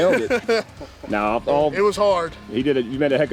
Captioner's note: laughs; mumbles